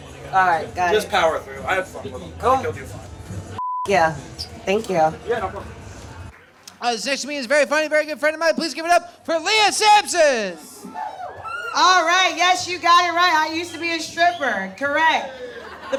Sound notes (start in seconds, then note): 10.8 audience cheers